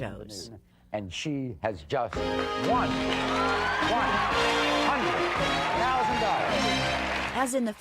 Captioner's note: applause